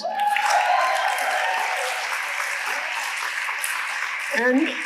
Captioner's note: audience applauding